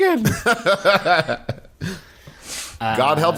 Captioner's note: Magnus laughs